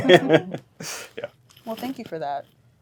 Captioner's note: all laughing